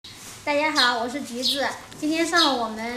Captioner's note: Mandarin